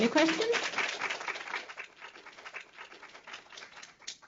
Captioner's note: applause